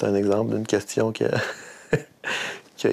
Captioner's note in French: petit rire